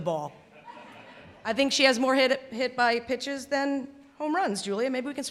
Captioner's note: laughter